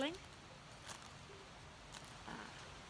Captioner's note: plastic rustling